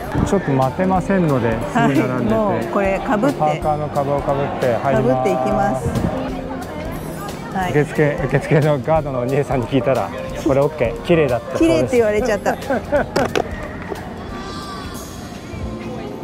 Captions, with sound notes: There was a long line at the robe rental office, so I entered with my own hooded hoodie. If you check with the staff before entering, is it OK to wear that outfit? Is it beautiful? (laughs)